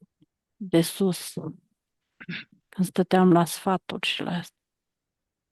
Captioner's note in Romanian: voce dreasă